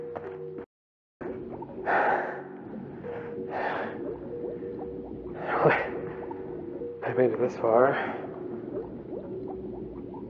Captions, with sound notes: [ heavy breathing ] I made it this far...